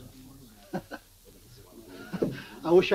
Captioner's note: chuckles